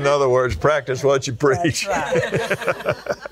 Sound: laughs

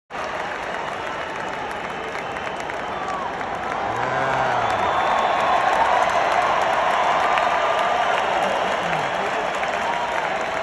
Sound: applause

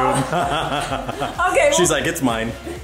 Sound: laughs

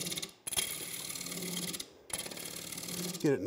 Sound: machine rattling

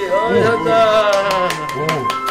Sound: seal clap

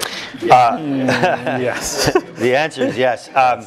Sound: laugh

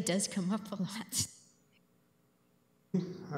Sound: laughs

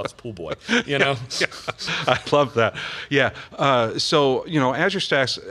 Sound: laughs

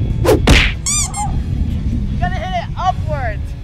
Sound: timer counting down; squeak

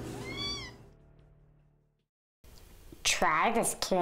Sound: cat meows

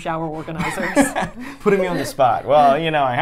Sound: laughs

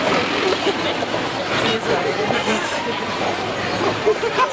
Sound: laughs

